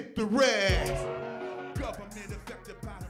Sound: cheering

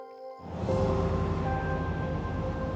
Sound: car passes

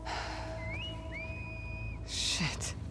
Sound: distant whistles

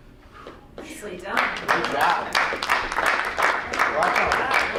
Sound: clapping

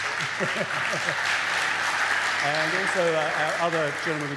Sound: audience applaud

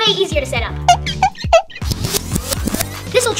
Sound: tracks squeaking

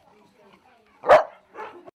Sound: another dog barks

